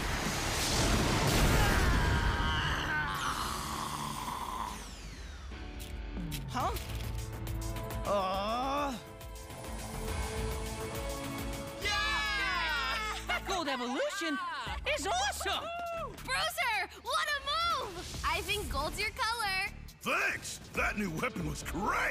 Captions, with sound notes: [grunting] Huh? [groaning] [all cheering] Gold Evolution is awesome! Bruiser, what a move! I think gold's your colour. Thanks! That new weapon was great.